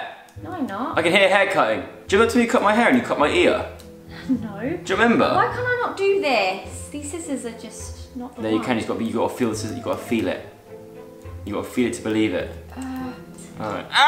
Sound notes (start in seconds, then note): 4.3 giggles